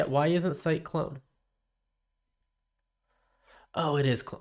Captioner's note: silence